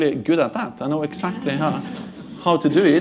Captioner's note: laughter